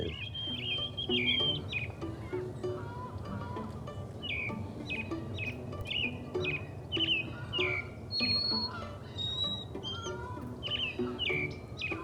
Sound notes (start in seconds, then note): 0.2 birds chirping; 4.7 birds continue chirping; 9.1 geese honking